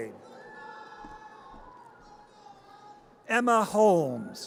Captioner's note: audience cheers